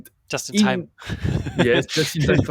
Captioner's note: laughs